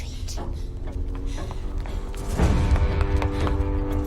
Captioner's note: ticking continues